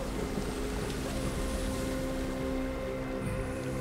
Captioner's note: calm rustling of grass